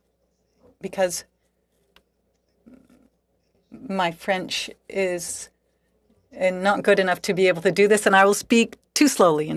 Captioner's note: speaking French